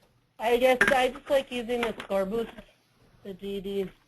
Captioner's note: voiceover